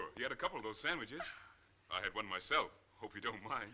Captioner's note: Mrs. Oliphant gasping